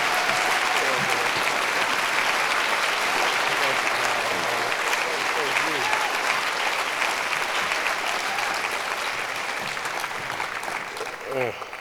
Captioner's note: applause